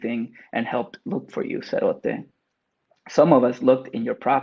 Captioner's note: speaks Spanish